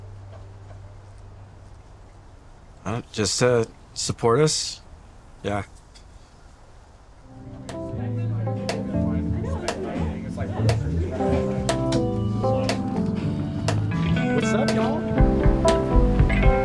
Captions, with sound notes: Just to support us? Yeah. (gentle upbeat music) (club members chatting indistinctly) - What's up, y'all?